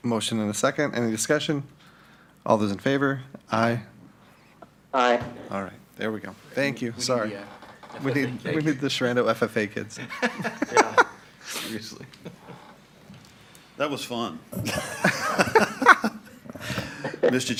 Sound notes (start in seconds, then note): 11.4 laughing; 14.5 all laughing